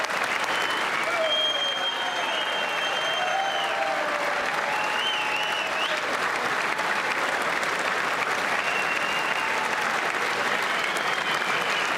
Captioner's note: applause